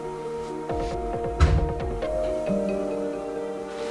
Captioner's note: the sound of bathroom door closing